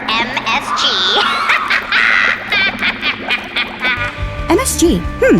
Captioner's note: voice 2 evil laughing